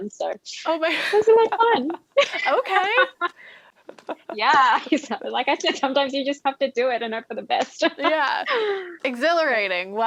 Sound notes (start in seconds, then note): 3.8 both laugh